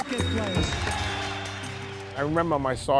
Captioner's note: clapping